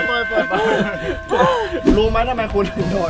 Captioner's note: gasping